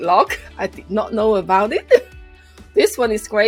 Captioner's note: laughs